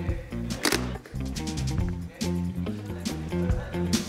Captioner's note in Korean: 딸칵